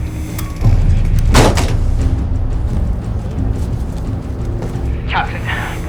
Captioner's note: door slams